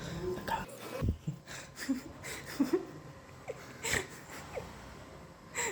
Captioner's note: laughing